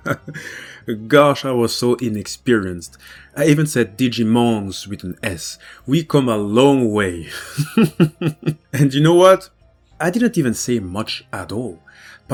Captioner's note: laughs